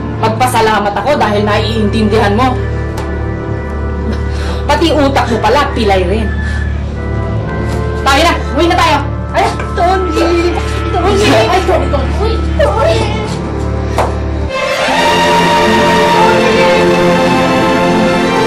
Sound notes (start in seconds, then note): 3.9 scoffs; 15.7 dramatic music playing